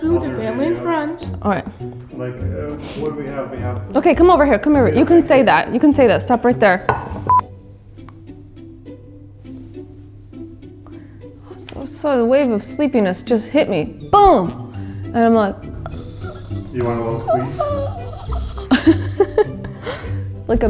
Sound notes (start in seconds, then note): 15.7 wheezing; 19.3 laughing